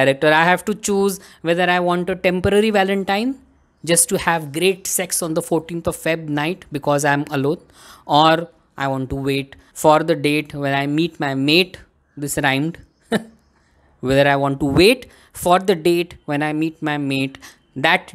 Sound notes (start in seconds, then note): 13.0 chuckles